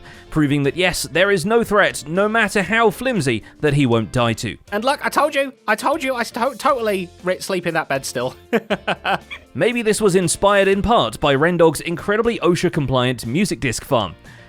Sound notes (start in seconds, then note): 8.5 laughs